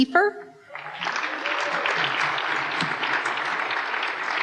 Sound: applause

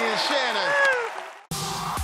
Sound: applause

